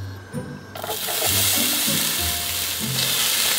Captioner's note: onions sizzling